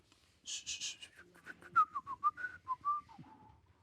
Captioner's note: whistles